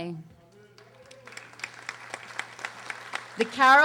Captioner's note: audience applauding